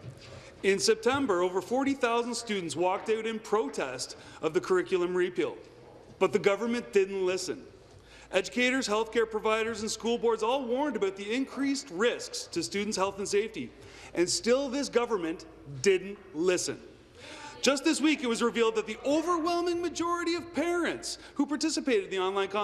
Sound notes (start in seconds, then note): none